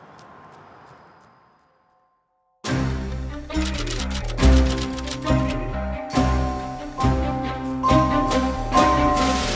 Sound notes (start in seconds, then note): 3.5 typewriter clanks; 5.8 determined music